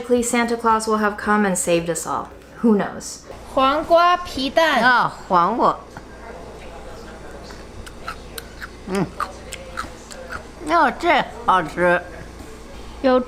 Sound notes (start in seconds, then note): 3.6 speaking Chinese; 5.3 grandma speaking Chinese; 7.4 eggs crunching; 10.7 grandma speaking Chinese